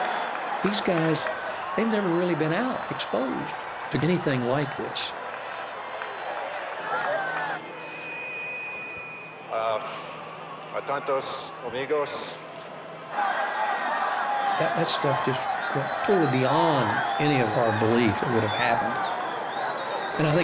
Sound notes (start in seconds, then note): 13.1 crowd cheering